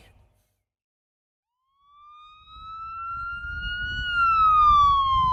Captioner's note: sirens blaring